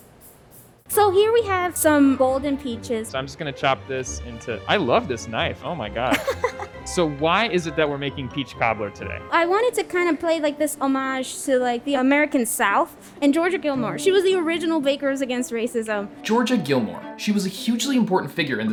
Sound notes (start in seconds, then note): 6.1 laughing